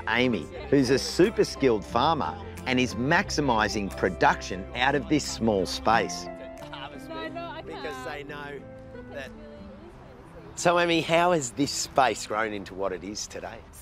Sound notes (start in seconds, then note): 6.6 chatter